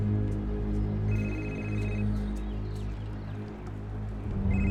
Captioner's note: cell phone rings